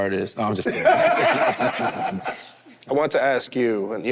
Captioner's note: group laughs